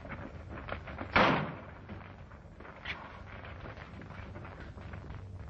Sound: gunshot

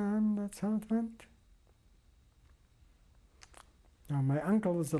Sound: pauses for 3 seconds

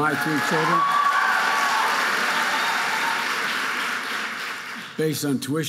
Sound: audience cheering and applauding

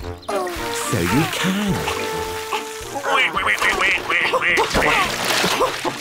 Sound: quacks

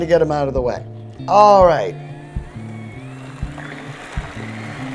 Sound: whirring, mixing

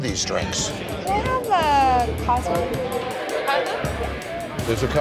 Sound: crowd roaring

